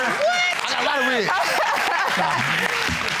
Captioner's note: laughing